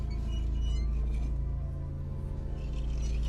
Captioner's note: rack squeaking